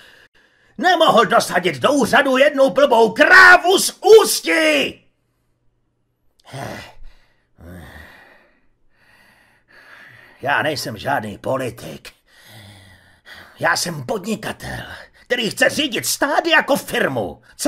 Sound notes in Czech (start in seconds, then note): 6.4 vzdechy